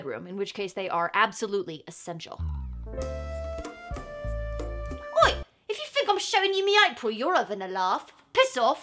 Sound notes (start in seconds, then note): 4.9 cockney accent